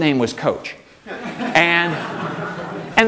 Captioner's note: audience laughing